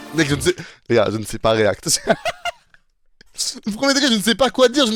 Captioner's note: laugh